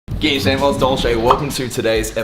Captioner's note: speaks foreign language